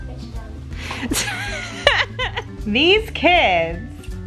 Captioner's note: laughs